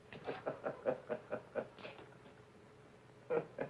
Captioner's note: Reno laughing